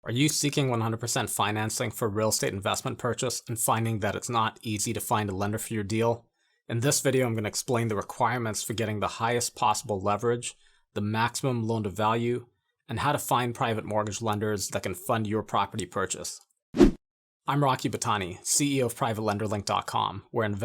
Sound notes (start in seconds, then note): 16.8 air whooshing